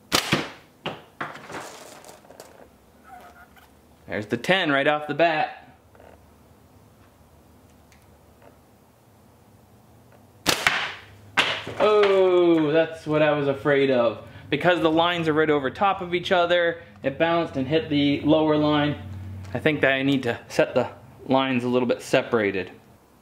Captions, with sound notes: (thwack) There's the ten right off the bat. (thwack) Ooh, that's what I was afraid of. Because the lines are right over top of each other, it bounced and hit the lower line. I think that I need to set the lines a little bit separated.